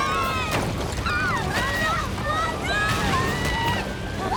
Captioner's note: all screaming